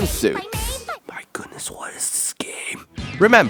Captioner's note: whispers